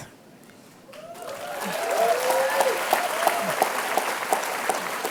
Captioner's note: cheers, applause